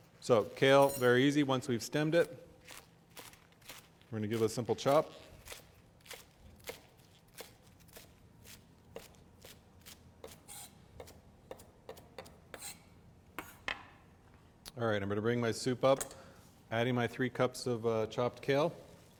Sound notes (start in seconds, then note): 6.6 chopping sounds